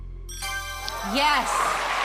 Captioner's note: ding